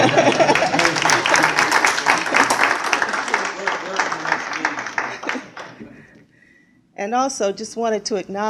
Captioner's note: applause